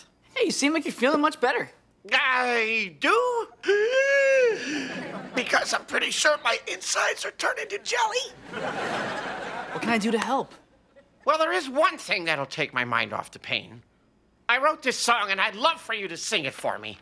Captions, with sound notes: Hey, you seem like you're feeling much better! I do? [wheezing] Because I'm pretty sure my insides are turning to jelly! [laughing] What can I do to help? Well there is one thing that'll take my mind off the pain. I wrote this song and I'd love for you to sing it for me!